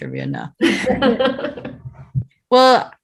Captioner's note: all laughing